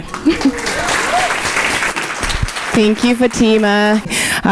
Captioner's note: audience applauding